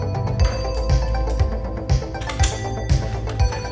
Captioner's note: pistol slide